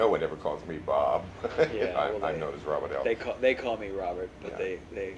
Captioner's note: laughs